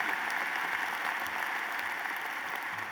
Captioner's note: applause